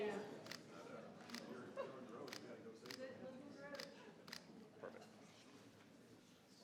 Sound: audience chattering; camera clicking

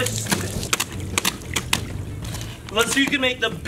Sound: splashing

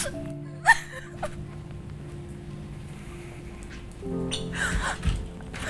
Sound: woman sobbing

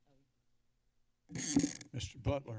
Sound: mic noise

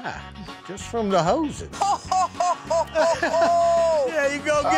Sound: laughing

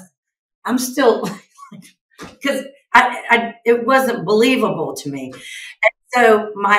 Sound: chuckles

